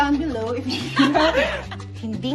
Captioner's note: laughs